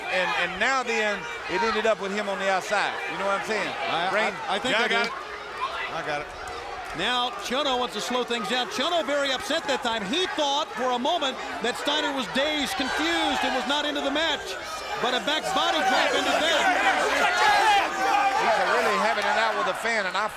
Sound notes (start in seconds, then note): 16.9 crowd exclaiming